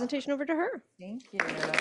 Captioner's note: applause